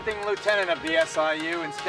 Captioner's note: none